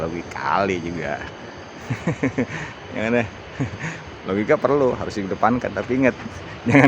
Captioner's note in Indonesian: tertawa